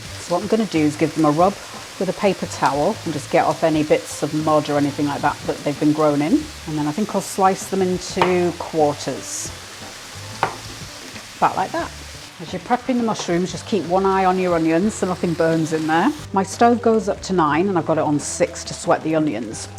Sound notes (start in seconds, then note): 10.3 knife chopping